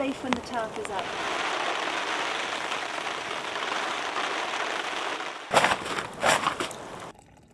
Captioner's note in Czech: Déšť padá